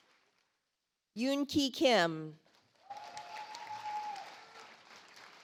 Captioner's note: audience applauds